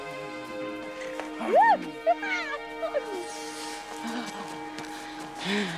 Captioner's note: Chelsea squeals